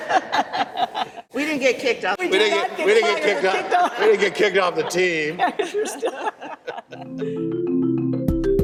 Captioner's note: laughs; laughs